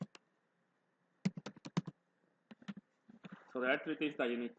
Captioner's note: typing